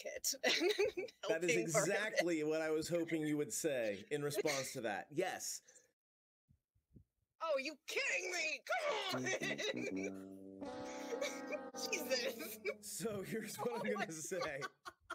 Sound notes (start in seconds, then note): 9.1 rolled a nat 1 failure noise; 14.6 laughing